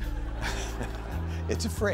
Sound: audience laughing

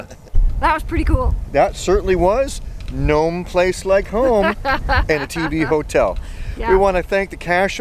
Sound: laughing

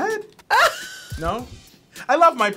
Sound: laughing loudly

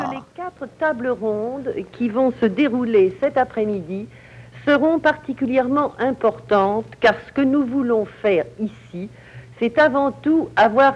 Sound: speaking French

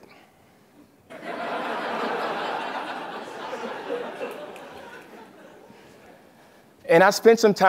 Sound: laugh

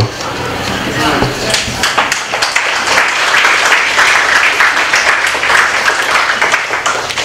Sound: applause

